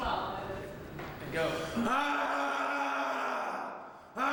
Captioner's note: roaring